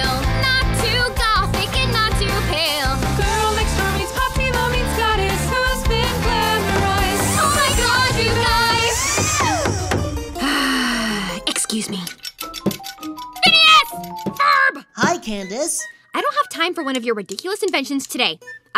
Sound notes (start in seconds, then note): 9.0 loud whirring and construction noises outside; 10.0 sighs